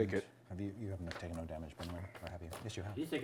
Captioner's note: muttering amongst each other